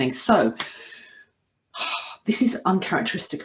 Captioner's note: inhales deeply